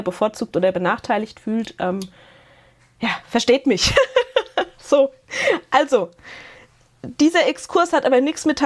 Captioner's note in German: Gelächter